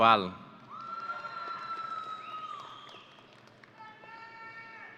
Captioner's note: audience cheering